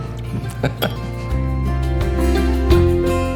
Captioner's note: laughing